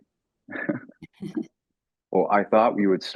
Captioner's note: chuckling